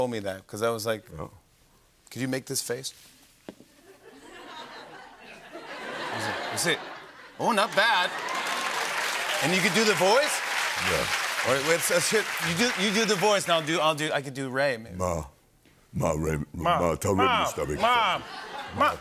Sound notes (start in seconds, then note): 3.7 laughter; 7.6 cheers and applause